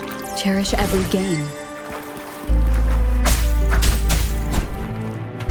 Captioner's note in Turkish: Çatışma sesleri